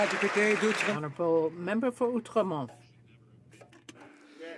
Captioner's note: some Applause